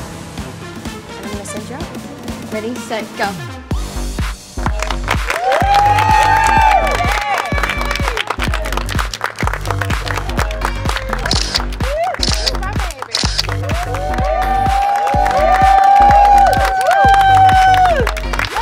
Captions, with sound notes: - Find the center. Ready, set, go. (upbeat music continues) (crowd cheers and applauds) (camera clicking) - That's my baby. (crowd cheers and applauds)